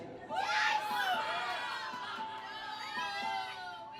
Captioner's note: crowd cheering